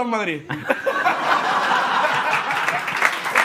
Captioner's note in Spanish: Risas; Aplausos